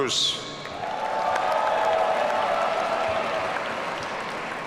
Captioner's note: audience cheering